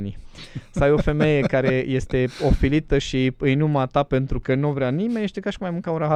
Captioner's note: laughter